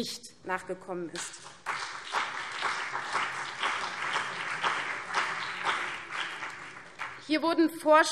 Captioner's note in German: Beifall CDU und BÜNDNIS 90/DIE GRÜNEN